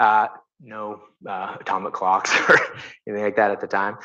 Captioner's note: chuckles